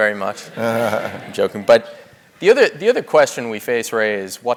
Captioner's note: laugh